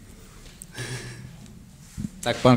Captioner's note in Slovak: smiech